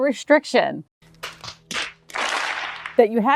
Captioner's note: forehead slapping noises